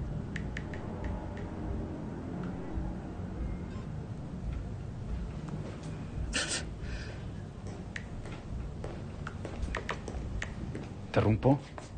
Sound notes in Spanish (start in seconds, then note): 6.3 Exhalación; 9.5 Pasos acercándose